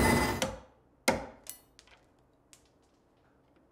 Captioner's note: machine whirring; hammer banging